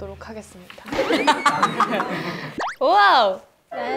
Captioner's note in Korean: 빵 터짐